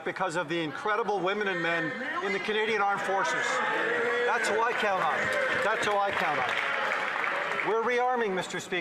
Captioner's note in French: voix de l'interprète